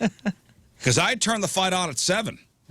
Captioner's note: laughs